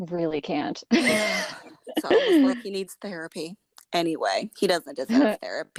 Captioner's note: laughter